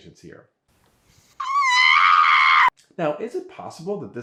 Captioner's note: woman screaming